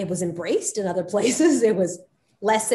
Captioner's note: Soledad laughs